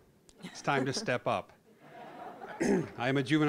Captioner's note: audience laughing